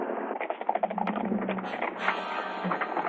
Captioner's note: horses galloping